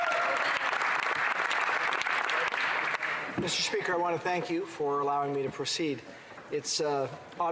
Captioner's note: applause